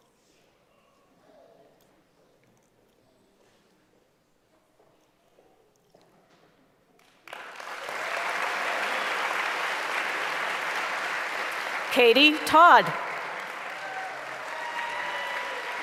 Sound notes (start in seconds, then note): 7.0 applause; 15.4 applause and cheering